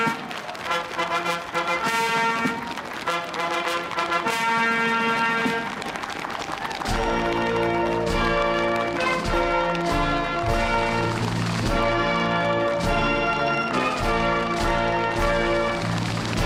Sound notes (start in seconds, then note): 2.0 applause; 3.8 cheering